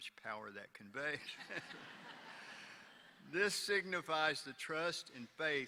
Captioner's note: laughter